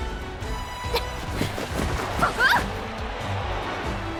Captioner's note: grunt